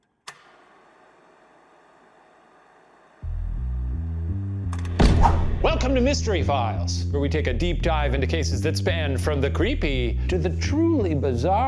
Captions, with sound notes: (projector clicks) (intriguing music) (baton whooshes) - Welcome to "Mystery Files," where we take a deep dive into cases that span from the creepy to the truly bizarre